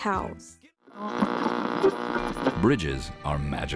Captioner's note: radio static